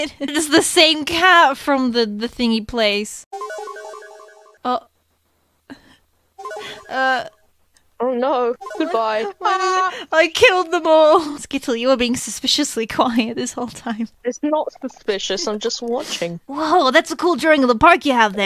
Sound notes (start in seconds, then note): 3.4 Gaster Disappear Sound Effect; 6.4 Sped up Gaster Disappear Sound Effect; 8.6 More sped up Gaster Disappear Sound Effect